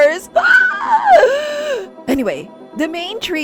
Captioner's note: sob